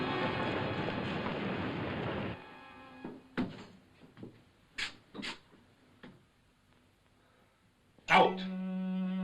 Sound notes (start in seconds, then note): 3.3 door opens; 8.4 melancholy music